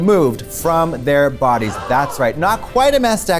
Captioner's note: gasp